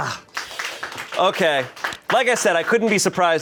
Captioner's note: crew applauds